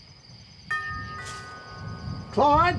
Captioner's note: doorbell